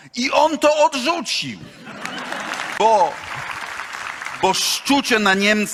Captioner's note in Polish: Aplauz